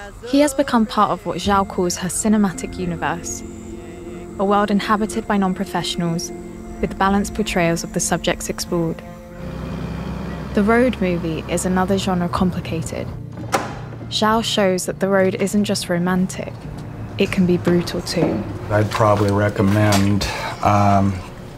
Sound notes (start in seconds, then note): 9.1 car driving